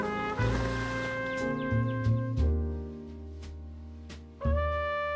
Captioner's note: window swishes